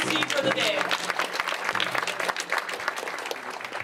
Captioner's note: clapping